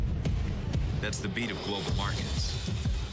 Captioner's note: heart beat